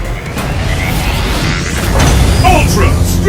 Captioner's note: metal grinding; bass booming